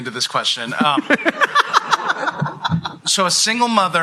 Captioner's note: laughter